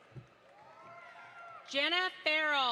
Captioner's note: audience applauds